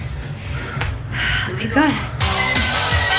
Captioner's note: panting; energetic workout music